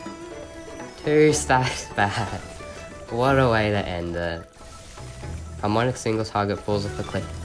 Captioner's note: laugh